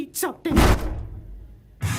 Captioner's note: SOMEONE kicks the door in